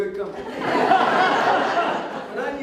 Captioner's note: audience Laughter